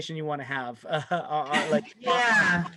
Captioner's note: laughter